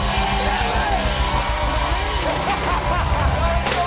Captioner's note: laughs